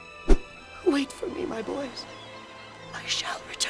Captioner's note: hushed whisper